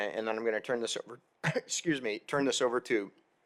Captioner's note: coughs